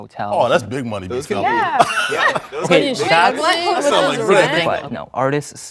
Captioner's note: all clamoring